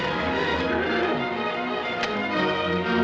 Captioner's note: horses neighing